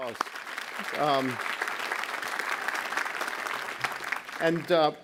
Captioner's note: audience applauds